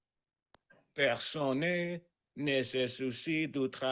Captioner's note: non-english speech